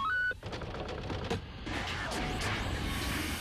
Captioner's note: beeps